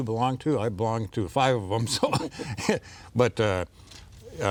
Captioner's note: laughs